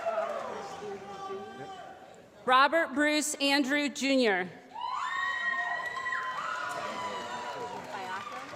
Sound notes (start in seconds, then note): 5.7 applause